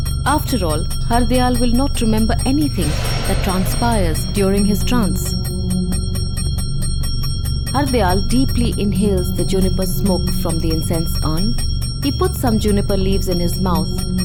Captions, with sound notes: After all, Hardayal will not remember anything that transpires during his trance. (intense bell jingling) (mysterious music) Hardayal deeply inhales the juniper smoke from the incense urn. He put some juniper leaves in his mouth